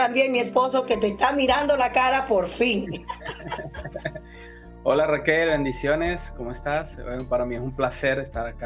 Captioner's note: laughs